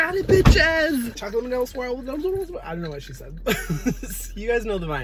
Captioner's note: speaks in gibberish; laughs